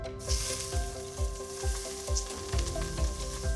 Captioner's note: onions sizzling